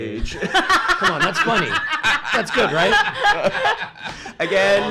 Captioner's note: laughs